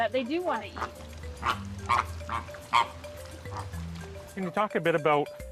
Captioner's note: flamingos squawking